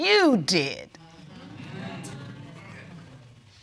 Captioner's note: audience murmuring